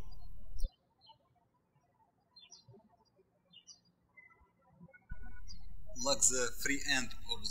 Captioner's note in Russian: птички щебечут